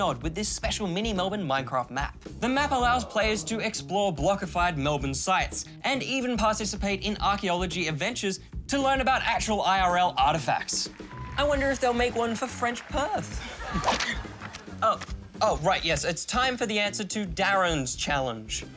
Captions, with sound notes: with this special Mini-Melbourne Minecraft map. The map allows players to explore blockified Melbourne sites, and even participate in archaeology adventures, to learn about actual IRL artefacts. I wonder if they'll make one for French Perth. (LAUGHTER) (GASPS) Oh... Oh, right, yes. It's time for the answer to DARREN'S Challenge.